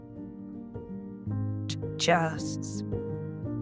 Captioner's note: stuttering